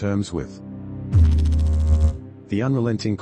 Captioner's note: electrical noise